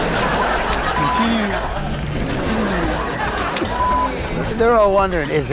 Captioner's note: laughter; audience laughing